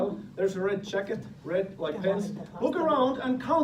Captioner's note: speaking in Finnish